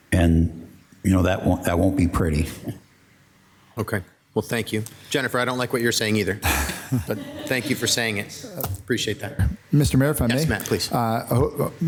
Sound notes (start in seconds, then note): 6.4 and staff members laughing